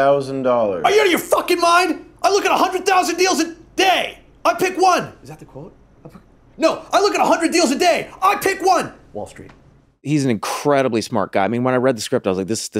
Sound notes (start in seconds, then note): 0.8 shouts